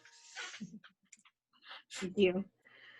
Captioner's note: laughing